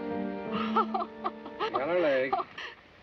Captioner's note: laughing